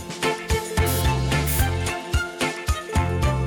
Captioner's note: air blowing; upbeat music; upbeat music continues